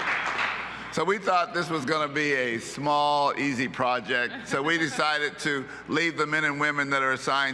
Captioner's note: applause